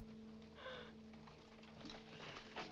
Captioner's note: gasp